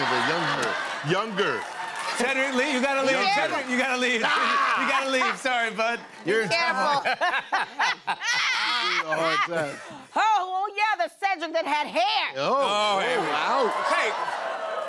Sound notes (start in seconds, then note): 6.5 laughter